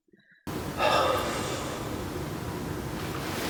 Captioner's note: sigh